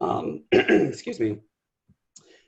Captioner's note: coughs